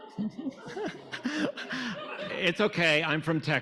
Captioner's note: audience laughing